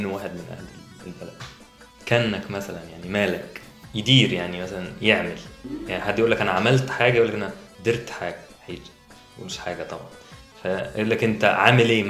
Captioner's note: Arabic words in Bedouin accent